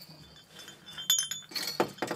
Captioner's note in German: Klimpern